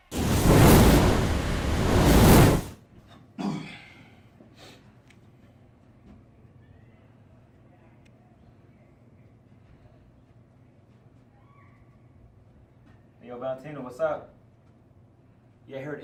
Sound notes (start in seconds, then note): 0.0 sizzling fire sound; 3.4 coughing